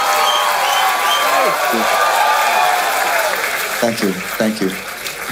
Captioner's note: crowd applauding